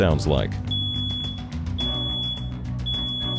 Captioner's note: beeping